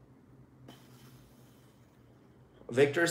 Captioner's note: sighs